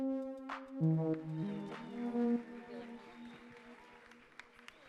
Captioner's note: audience cheering